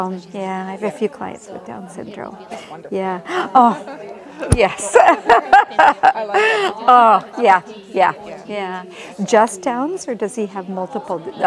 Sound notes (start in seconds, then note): 3.2 gasps; 4.8 laughs